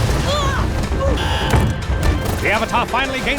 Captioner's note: grunting; buzzer